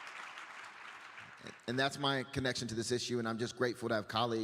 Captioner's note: applause